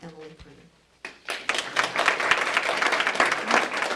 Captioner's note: applause